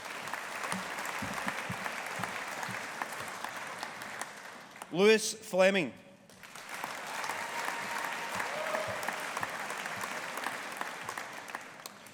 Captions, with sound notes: (AUDIENCE APPLAUDING) Lewis Fleming. (AUDIENCE APPLAUDING)